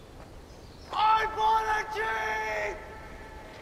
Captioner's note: man in ad, yelling